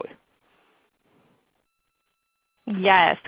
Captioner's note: silence